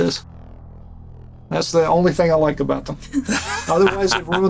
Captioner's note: laughter